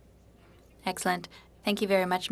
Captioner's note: speaking French